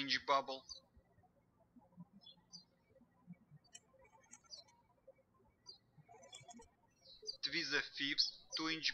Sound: birds chirping

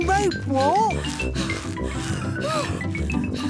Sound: puffing and panting

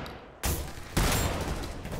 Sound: bang!

